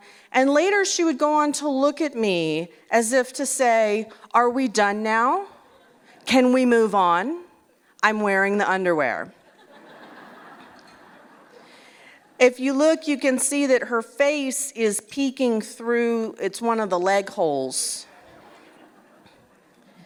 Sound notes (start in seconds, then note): 9.4 laughter